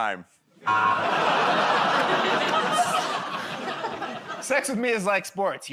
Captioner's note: laughter, buzzer